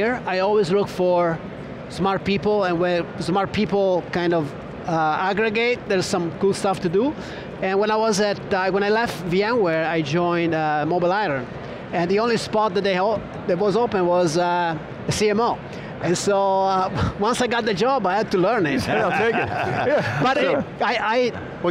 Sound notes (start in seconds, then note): 18.7 all laughing